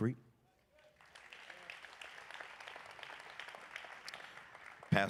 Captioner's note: applause